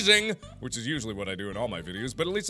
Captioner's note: sarcastic